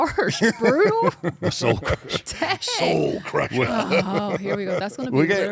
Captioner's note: laugh